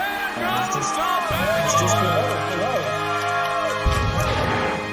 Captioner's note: cheering and applauding